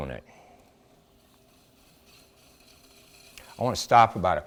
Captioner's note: whirring